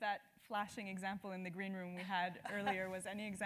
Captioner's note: laugh